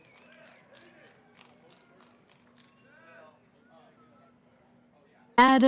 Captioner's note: cheering